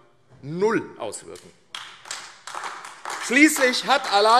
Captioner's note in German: Beifall AfD